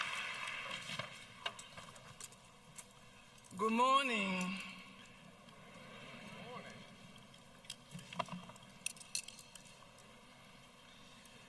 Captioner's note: applause